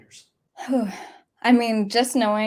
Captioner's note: sighs